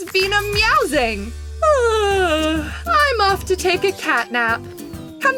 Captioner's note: yawns